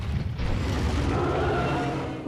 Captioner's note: roars